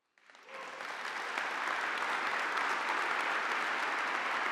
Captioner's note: audience applauding